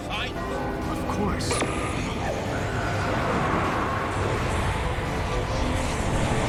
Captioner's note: spooky laughter, crackling, rumbling